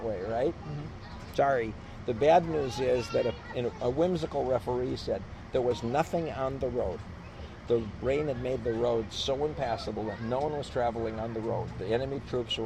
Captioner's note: laughs